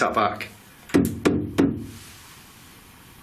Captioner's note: knocking